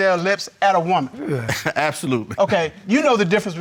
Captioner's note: chuckles